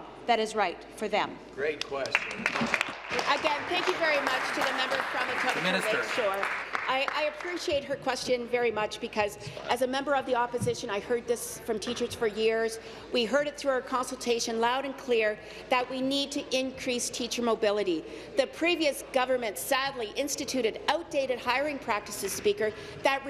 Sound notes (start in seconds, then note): 5.9 applause